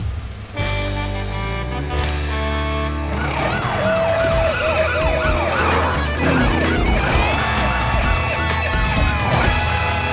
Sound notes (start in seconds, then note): 0.1 Blaze honking; 3.5 siren blaring; 3.7 cheering; 5.7 siren blaring